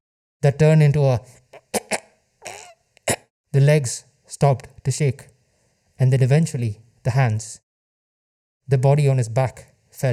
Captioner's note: choking noses